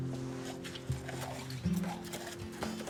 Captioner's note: hooves clop